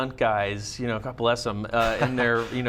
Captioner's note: laughs